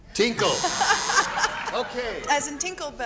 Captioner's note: buzzer